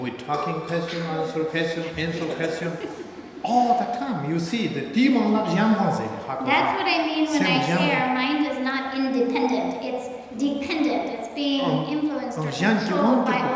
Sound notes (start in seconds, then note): 4.8 speaking tibetan